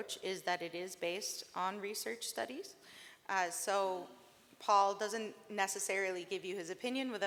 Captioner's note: none